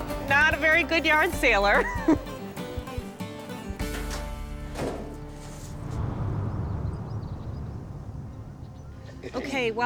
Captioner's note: chuckles